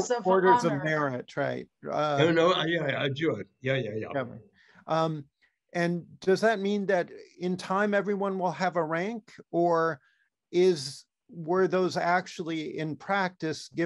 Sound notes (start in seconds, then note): 3.3 non-english